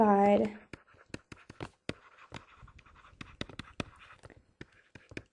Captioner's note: stylus writing on board